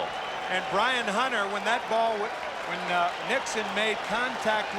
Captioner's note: cheering and Applause